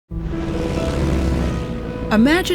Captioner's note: plane flying